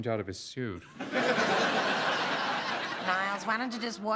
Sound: laughter

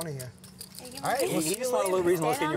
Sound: laughs

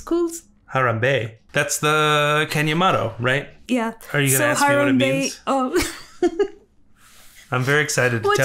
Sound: laughs

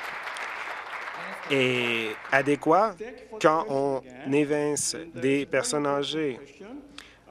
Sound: applause

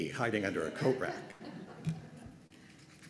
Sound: laughter

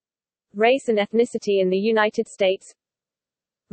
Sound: mainly Spanish

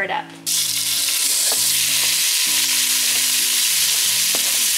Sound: chicken sizzling

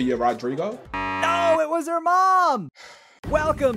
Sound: buzzer beeps; sighs

